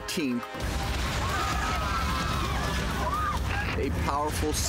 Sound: people yelling

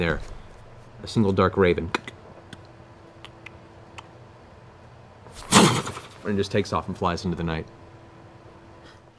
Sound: clicks, rapid flapping

